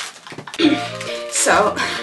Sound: continues laughing at the irony; gasping for air

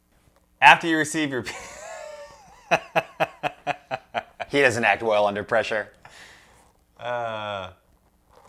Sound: awkward laughing

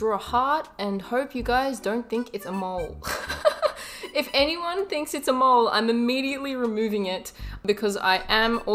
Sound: laugh

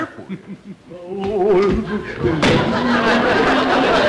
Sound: Clem humming noisly; audience laughter

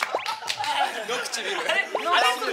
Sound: laughs

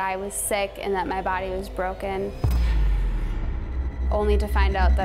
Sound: echoing boom

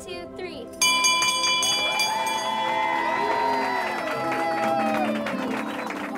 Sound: dinging; clapping and cheering

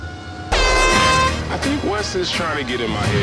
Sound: horn blares

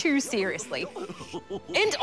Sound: goofy and donald laugh

